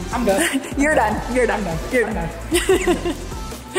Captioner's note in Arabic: يضحك